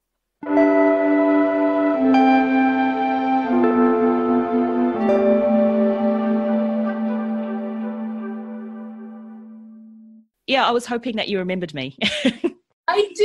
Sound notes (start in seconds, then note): 11.6 laughs